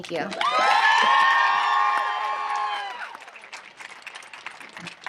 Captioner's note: audience applauding